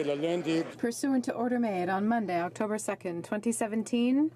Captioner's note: crowd Noise